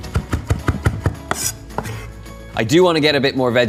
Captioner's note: knife chopping